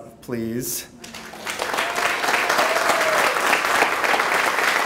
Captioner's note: clapping